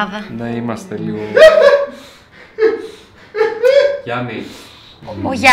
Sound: laughs

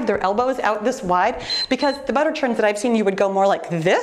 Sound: timer beeps

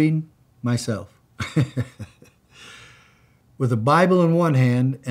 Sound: chuckles

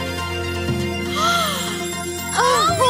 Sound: Shellnelle gasps

